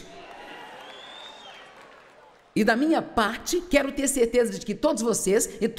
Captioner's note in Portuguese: audiência se alegra